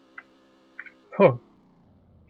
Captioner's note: the sound of surprise